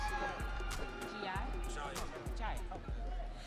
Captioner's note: audience cheering